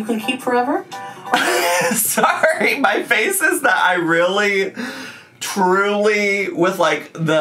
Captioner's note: laughs